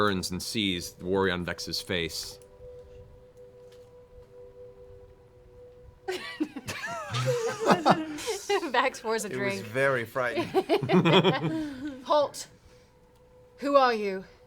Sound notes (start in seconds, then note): 3.5 laughs